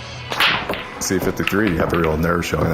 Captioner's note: sound of people playing pool